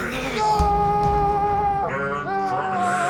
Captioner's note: Tony screaming